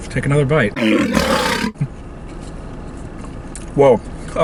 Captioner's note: lion roars